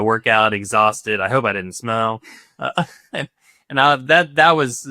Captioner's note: chuckles